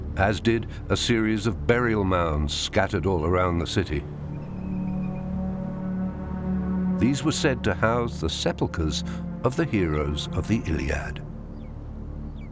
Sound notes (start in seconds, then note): 4.6 birds chirping; 4.6 ominous music